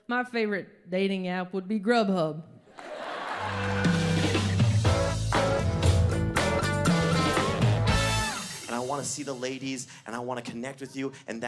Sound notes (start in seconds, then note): 2.7 audience laughs; 3.5 upbeat rock music